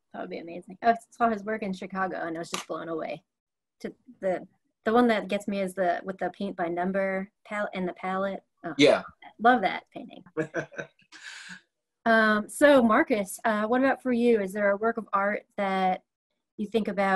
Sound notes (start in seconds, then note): 10.4 laughs